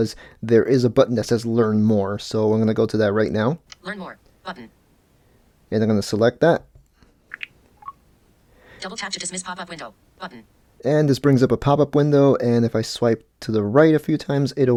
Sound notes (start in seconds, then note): 7.3 popping sounds